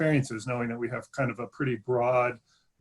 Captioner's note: glitch interferes with audio